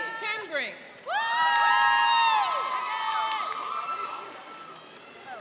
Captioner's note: cheering and applauding